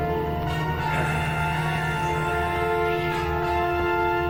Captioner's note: zombie growling